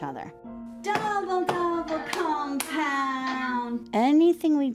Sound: chanting and clapping

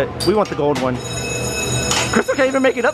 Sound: bell ringing; laughing

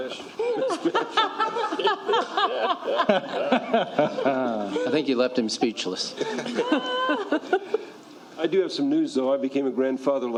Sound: laughter

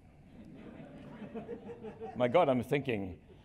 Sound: laughter

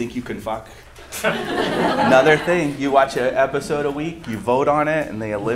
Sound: laughter

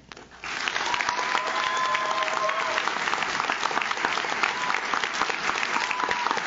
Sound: audience claps; audience cheers

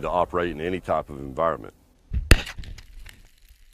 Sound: explosion

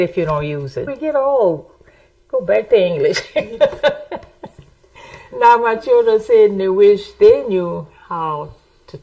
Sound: laughs

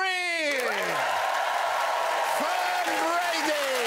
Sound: cheering and applause

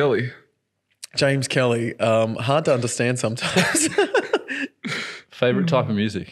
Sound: laughs

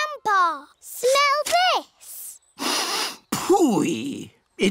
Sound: sniffs

